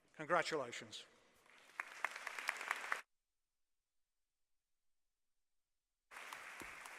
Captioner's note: applause